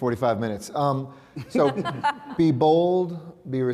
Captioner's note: laughing